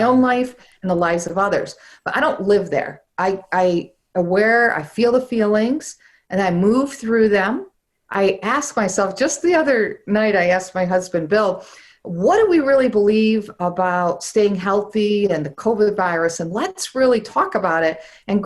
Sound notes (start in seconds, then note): none